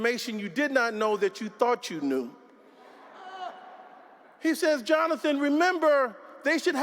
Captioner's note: laughter